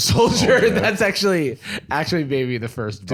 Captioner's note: laughs